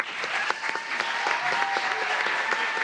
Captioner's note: applause